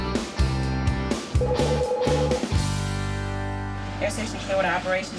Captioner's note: phone ringing